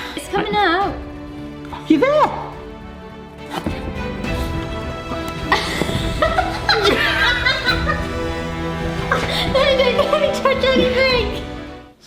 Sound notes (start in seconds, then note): 3.9 dramatic suspense music; 3.9 laughing